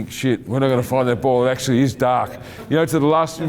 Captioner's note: laughing